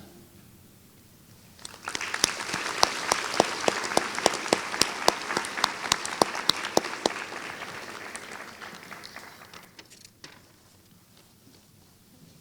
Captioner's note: applause